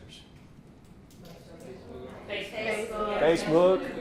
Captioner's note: crowd chattering